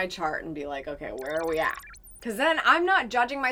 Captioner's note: digital beeps